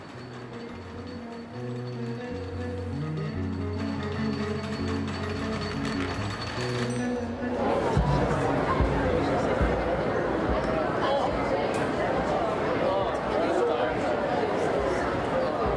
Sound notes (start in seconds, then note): 0.6 soft light music; 7.2 people mumbling